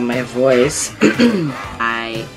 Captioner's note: clears throat